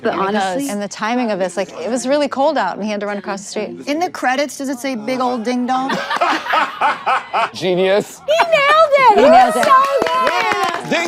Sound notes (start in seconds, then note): 5.9 everyone laughs